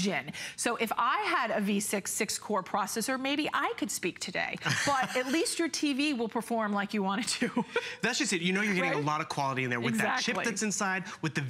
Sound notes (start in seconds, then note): 4.6 laughter; 7.2 laughter